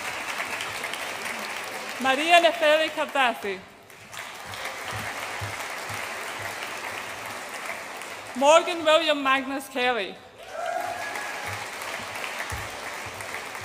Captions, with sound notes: Maria Nepheli Kardassi. (AUDIENCE APPLAUDS) Morgan William Magnus Kelly. (AUDIENCE APPLAUDS AND CHEERS)